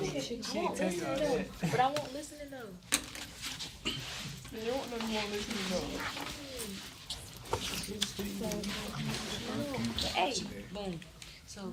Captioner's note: students murmur